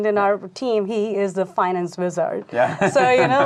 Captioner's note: laughing